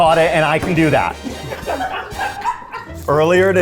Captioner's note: crew laughing